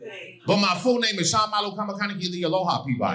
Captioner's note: speaking Hawaiian